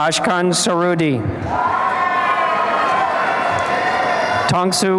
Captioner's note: applause and cheering